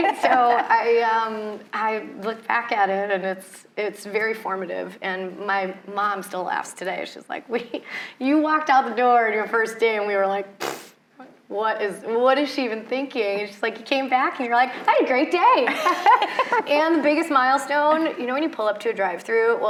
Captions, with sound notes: So I looked back at it and it's very formative. And my mom still laughs today. She's like, wait, "You walked out the door on your first day. And we were like, (blows raspberries) what is, what is she even thinking?" It's just like, you came back and you're like, "I had a great day." And the biggest milestone, when you pull up to a drive through,